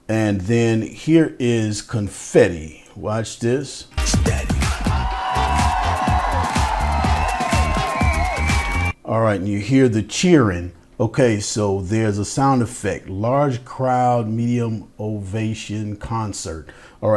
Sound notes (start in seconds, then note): 3.9 upbeat music; 4.6 cheering